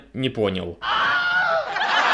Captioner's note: Willhelm's scream; canned laughter